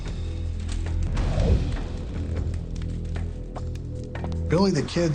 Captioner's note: air whooshing